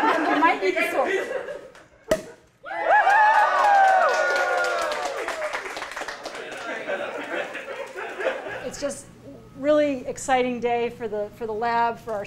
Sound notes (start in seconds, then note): 0.0 laughter; 2.9 applause